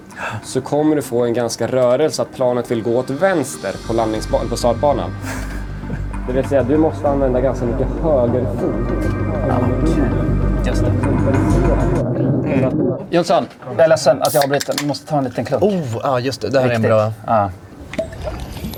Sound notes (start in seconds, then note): 12.1 confused